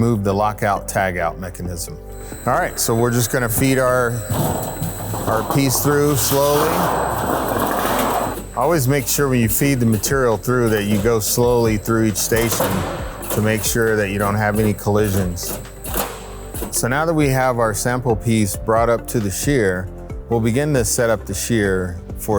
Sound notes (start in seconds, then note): 6.8 machine whirring